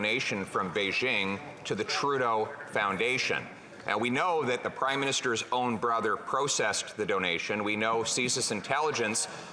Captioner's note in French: voix de l'interprète